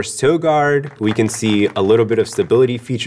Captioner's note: applause